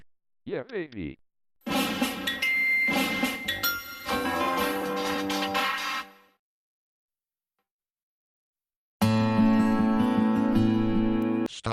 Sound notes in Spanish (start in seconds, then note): 1.5 reproduciendo música; 6.9 silencio